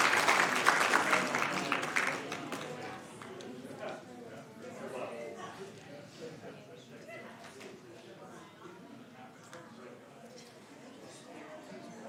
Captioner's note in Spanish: aplausos